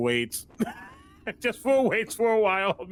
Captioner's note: breaking into laugher